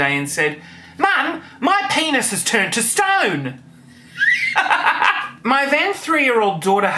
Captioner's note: laughing